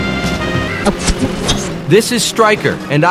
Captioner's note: radio tuning sounds Warped